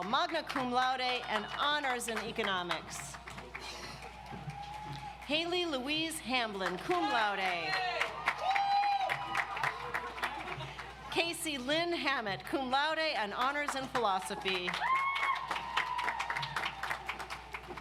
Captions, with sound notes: Magna Cum Laude and Honors in Economics. Haley Louise Hamblin, Cum Laude. (audience applauds) Casey Lynn Hammett, Cum Laude and Honors in Philosophy. (audience applauds)